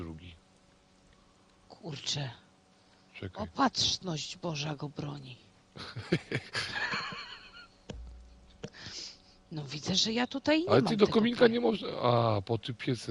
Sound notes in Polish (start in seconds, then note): 5.8 śmiech